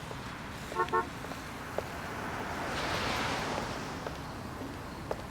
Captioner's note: street noise